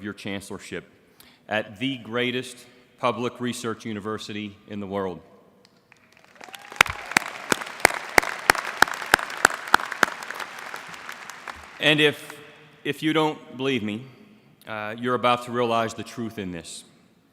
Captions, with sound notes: CHANCELLORSHIP AT THE GREATEST PUBLIC RESEARCH UNIVERSITY IN THE WORLD. [APPLAUSE] AND IF YOU DON'T BELIEVE ME, YOU'RE ABOUT TO REALIZE THE TRUTH IN THIS.